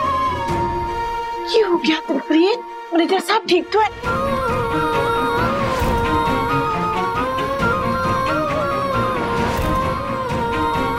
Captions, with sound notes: What happened, Dilpreet? Is everything alright? [emotional vocalising]